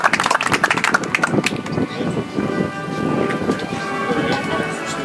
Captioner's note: audience applauds